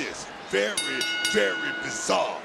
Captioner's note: bell rings